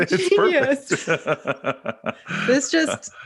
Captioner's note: chuckles; laughing